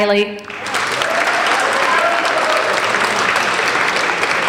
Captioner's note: applauding